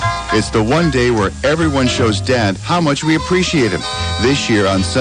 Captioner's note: Imitating Dustyís voice